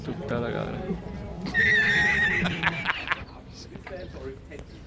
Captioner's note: ironic laughter